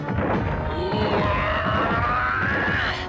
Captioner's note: growls